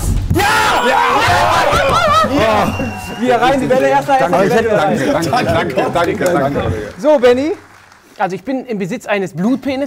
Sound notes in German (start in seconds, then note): 1.4 Jubel